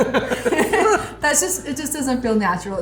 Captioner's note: both laughing